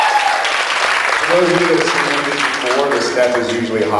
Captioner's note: cheers, applauds; applauds